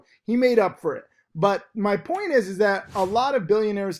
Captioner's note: air whooshes